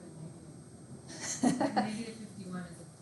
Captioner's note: instructor laughing